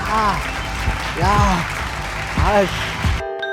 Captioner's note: clapping sound